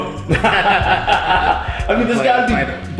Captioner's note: both laughing